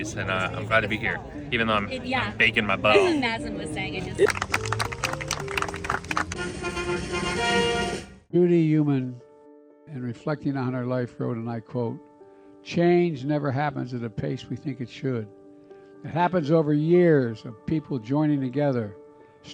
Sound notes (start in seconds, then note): 4.2 clapping; 6.1 trumpets